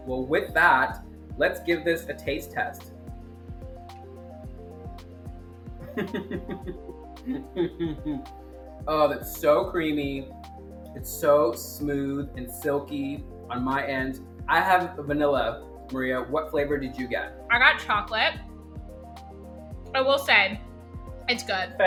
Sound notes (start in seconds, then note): 5.8 laughs